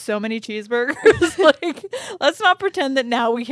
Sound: chuckling

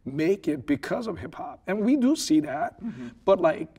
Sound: laughing

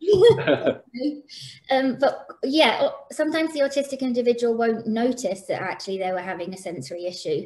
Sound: laughter

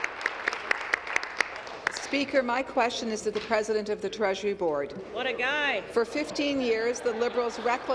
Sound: applause

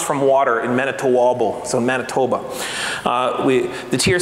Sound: foreign speaking

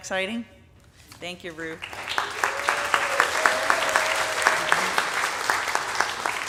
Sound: audience applauding

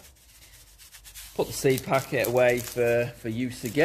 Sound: seeds shuffling; packet crunching

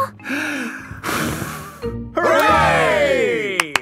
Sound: breathes deeply, blows; claps

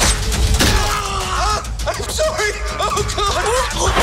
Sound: screams

